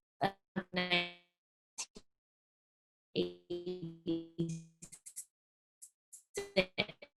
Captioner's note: audio stutters from technical difficulties